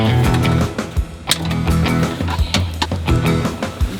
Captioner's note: cutting